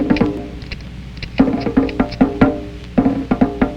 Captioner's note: guns cocking